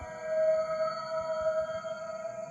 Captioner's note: eerie hum